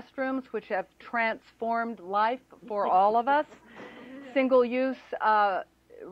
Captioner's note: laughter